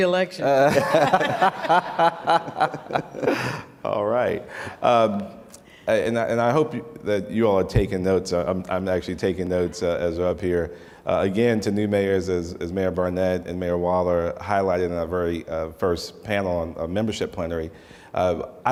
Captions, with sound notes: - He's running for reelection. (laughter) - Alright and I hope you all are taking notes, I'm actually taking notes as up here. Again to new mayors as Mayor Barnett and Mayor Waller highlighted in the very first panel on membership plenary,